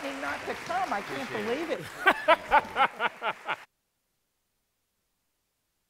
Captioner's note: laughter